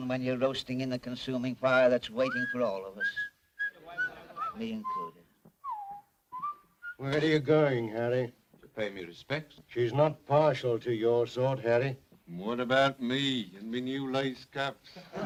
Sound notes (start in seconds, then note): 2.2 Harry whistles; 5.6 Harry whistles